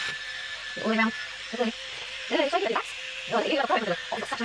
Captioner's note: fast forwarded voices